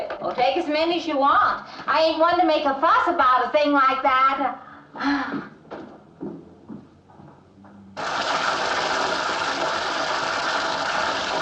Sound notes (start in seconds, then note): 4.9 sighing; 8.0 water rushing